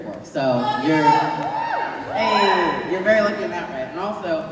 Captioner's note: shouts from the crowd